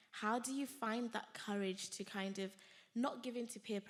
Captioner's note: none